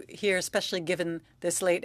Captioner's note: speaking French